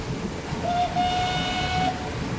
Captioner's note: whistle blows